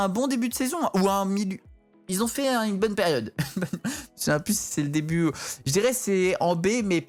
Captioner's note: laughter